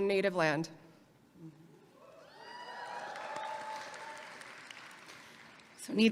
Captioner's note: audience applauding and cheering